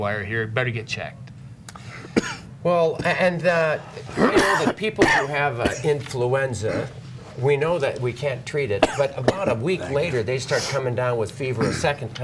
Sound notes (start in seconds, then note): 2.0 coughing